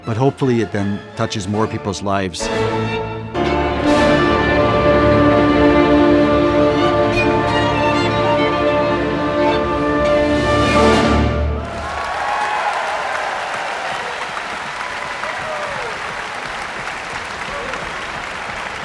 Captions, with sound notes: but hopefully, it then touches more people's lives. (dramatic classical music) (audience cheering and applauding)